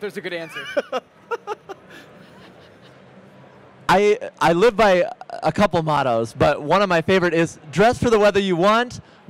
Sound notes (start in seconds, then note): 1.3 host laughs